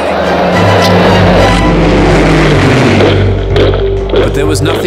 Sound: planes roaring; boots thudding; suspenseful music

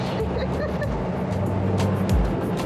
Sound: laughs

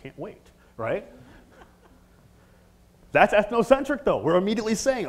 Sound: laugh

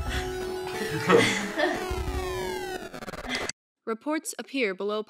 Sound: record needle scratching

